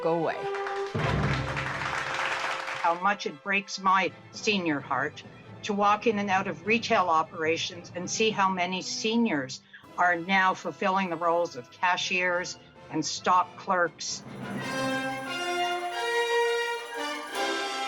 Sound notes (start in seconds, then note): 0.4 dramatic music; 1.9 audience applauds; 17.6 dramatic music